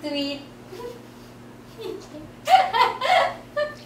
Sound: laughs

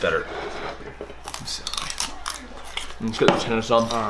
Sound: crunches celery stick

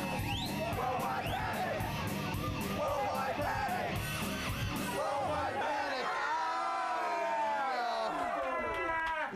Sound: applause

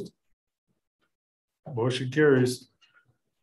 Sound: silence

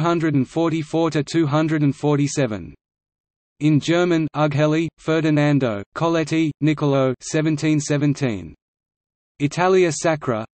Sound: in German

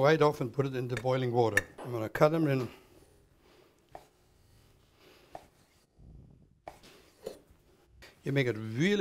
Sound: chopping sound

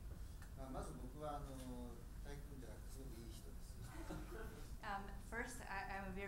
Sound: speaking in foreign language

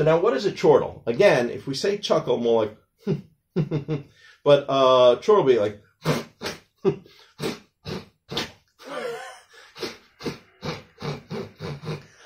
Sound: chuckling sounds; chortling sounds

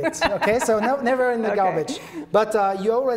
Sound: laughs

